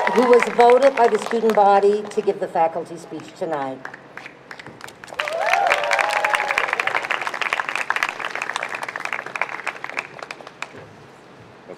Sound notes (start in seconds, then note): 0.0 crowd cheers; 5.0 crowd cheers